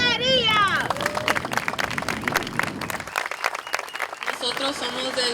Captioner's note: applause